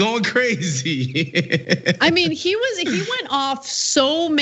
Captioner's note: laugh